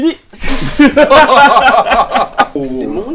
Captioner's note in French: Rires